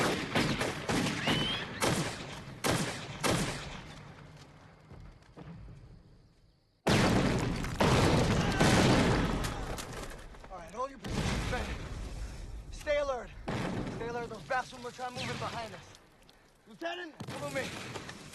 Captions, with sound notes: [CHER AMI SHRIEKS] All right, hold your positions, men. Stay alert. Stay alert or those bastards will try to move in behind us. Lieutenant, come with me!